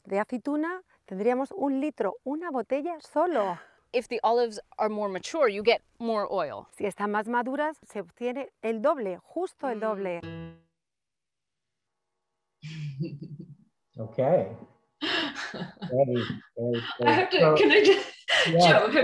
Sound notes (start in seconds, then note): 6.9 speaks in Spanish; 12.7 laughs